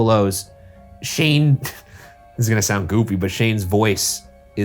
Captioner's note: laughs